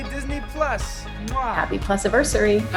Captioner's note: blows kiss